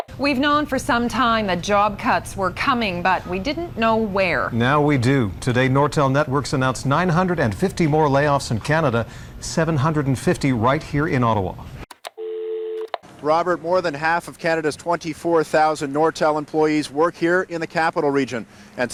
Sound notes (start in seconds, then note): 11.8 click; 12.1 dial tone